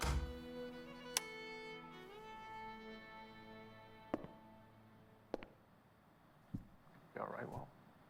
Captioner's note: door closes